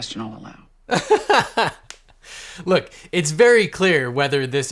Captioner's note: laughing